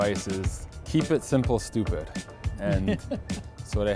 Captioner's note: chuckles